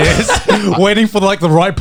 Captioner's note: Joey laughing